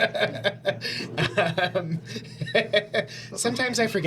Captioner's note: laughing